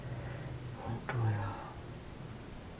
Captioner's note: foregin language